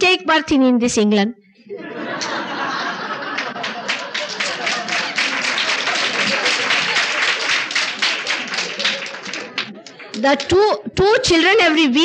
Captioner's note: laughter and applause